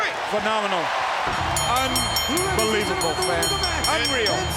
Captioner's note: bell dinging